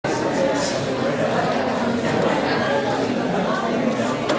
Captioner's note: loud chatter